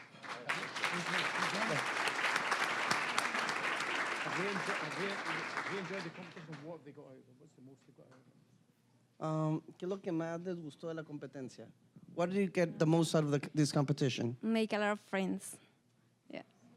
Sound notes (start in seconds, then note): 0.0 applause; 9.7 speaking Spanish